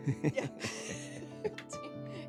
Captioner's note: laughs